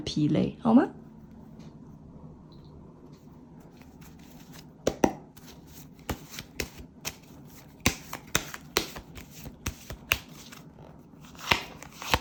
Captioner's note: cards being shuffled